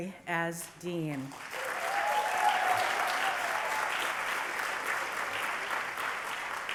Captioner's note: applause